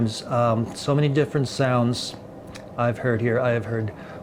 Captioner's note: none